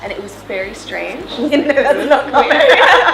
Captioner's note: laughs